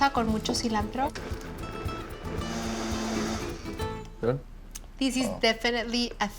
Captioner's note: whirring